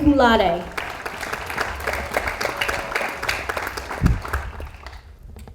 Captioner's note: audience applauds